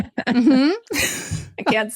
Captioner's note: laughs